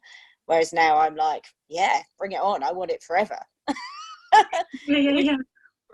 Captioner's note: laughter